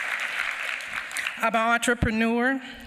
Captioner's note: applause